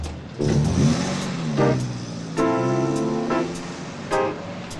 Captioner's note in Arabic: هدير المحرك